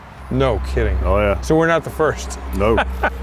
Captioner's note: chuckles